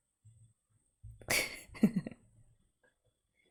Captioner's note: laughs